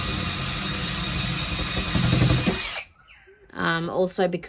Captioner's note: continuous drilling